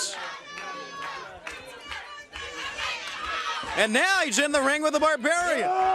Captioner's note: crowd chatter